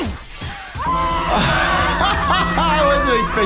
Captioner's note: glass shattering; Petunia screaming; laughing